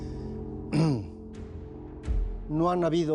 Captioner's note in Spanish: Carraspea